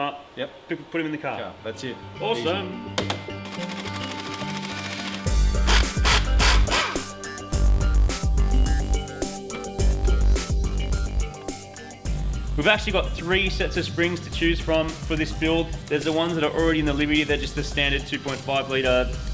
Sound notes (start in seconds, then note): 2.3 sing-song; 5.6 air-powered rattle gun